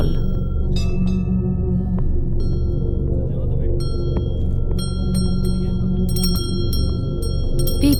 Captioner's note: bell chimes